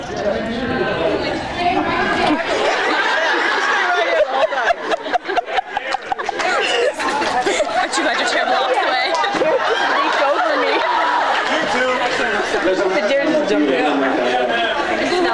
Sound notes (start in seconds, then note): 0.0 various chatter, laughs, and reactions; 12.1 off mic; 14.8 various chatter, laughs, and reactions